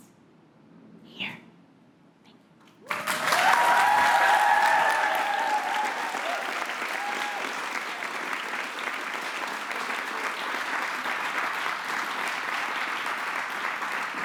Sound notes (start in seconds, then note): 2.8 applause